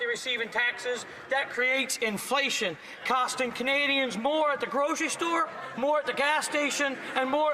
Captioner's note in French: voix de l'interprète